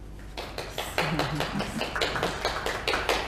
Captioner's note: clapping